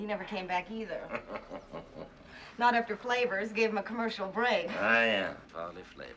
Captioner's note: Смеется